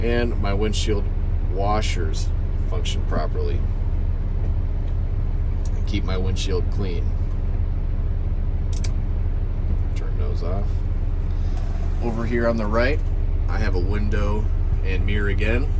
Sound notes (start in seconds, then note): 8.7 switch clicks